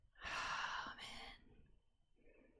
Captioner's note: whispers